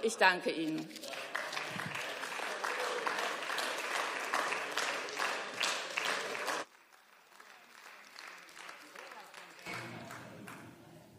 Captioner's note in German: Beifall